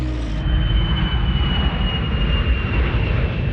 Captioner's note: airplane Engine